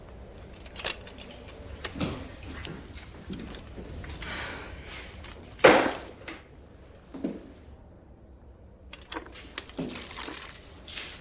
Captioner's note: Carrie sighs